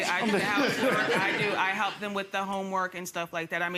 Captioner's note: audience laughing